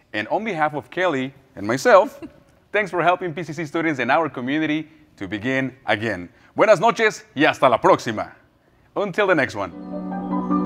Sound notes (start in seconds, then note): 6.8 speaking in foreign language; 9.6 enlightening music